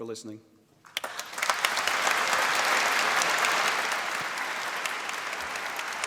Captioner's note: applause